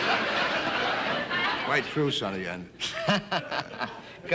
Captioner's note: audience laughing; laughs